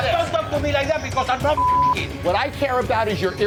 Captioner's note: beep